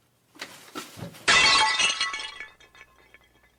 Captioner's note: glass breaking